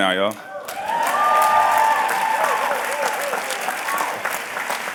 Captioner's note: cheers and applause